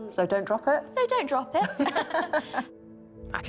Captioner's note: laughing